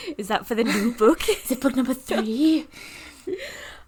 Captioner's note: laughing